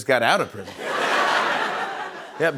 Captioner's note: laughter